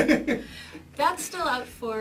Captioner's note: laughs